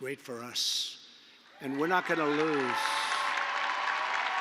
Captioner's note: applause